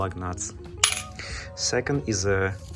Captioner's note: lug clinks